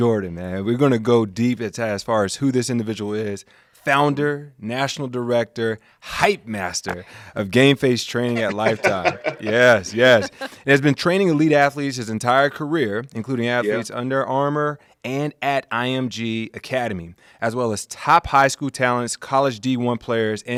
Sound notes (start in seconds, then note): 8.2 laughs